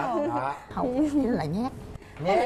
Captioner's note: the wife laughing